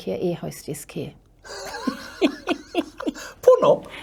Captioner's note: both laugh